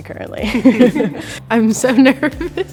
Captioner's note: group chuckles